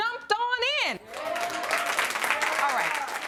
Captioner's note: audience applauding